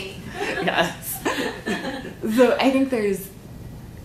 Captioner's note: both Laughing